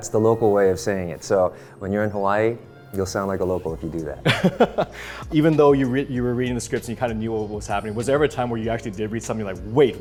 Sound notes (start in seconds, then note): 4.2 laughing